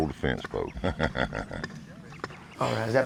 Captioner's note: chuckles